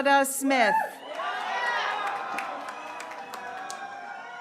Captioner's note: graduates cheering